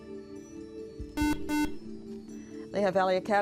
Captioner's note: buzzer